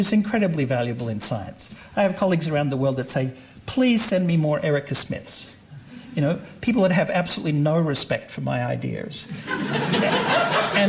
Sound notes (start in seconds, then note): 9.3 laughter